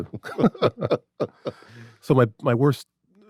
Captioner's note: laughing